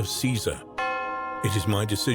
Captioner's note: bell dinging